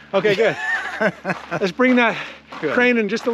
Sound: Eugene laughing

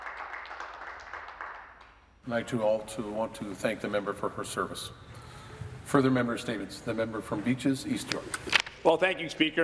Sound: some Applause

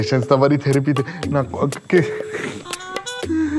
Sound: scared

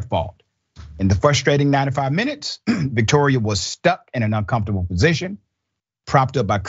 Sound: cough

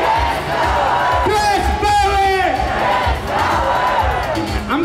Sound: crowd

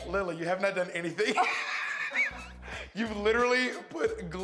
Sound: laughter

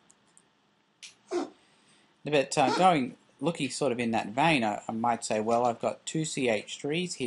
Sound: cat coughing up hairball

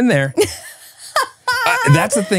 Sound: laughing

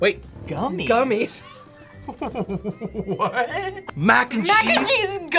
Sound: laughs

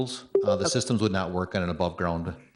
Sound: electronic chime

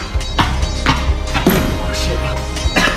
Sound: slam

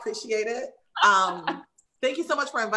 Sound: laughs

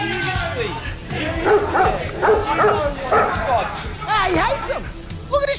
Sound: sputters; dog barks

